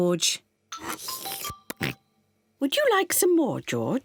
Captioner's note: slurps